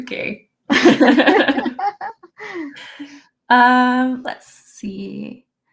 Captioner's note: laughter